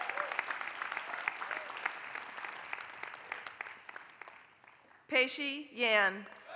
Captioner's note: applause; applause